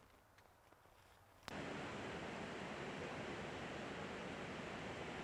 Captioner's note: water roaring